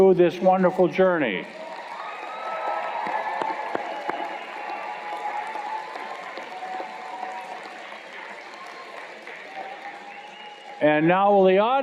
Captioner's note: cheers and Applause